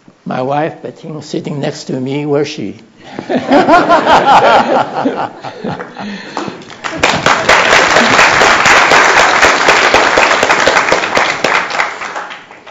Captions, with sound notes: My wife, Bettine, sitting next to me -- where is she? [Laughter] [Applause]